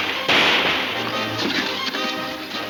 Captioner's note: powder keg clattering